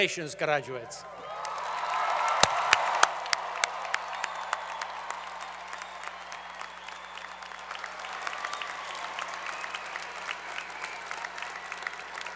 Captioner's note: applause